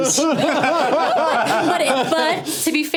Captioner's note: all laughing